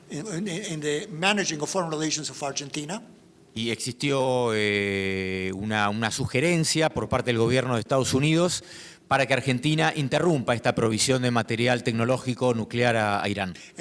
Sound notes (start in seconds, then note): 3.8 speaking in foreign language